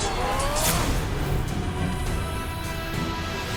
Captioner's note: soldiers screaming; swords clanging; dramatic music continues